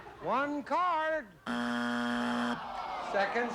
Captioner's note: buzzer